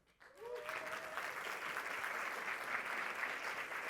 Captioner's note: applause